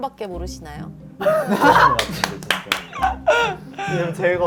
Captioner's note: happily laughing and clapping